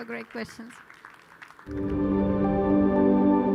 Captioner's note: audience applauding; gentle music